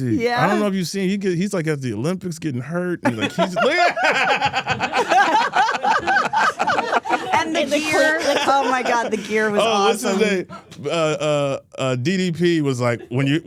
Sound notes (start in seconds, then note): 3.0 laughs; 5.3 Steph and Elyse laughing